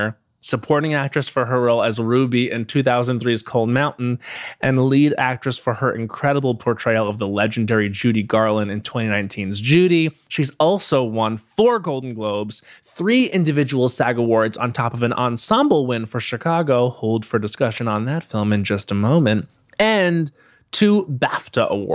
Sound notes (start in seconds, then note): none